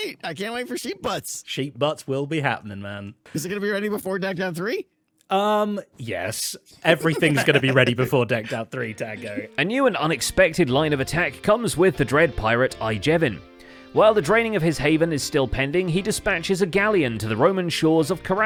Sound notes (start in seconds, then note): 6.8 giggles